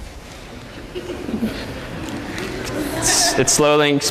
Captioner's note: giggling